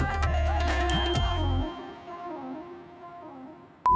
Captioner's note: bell dings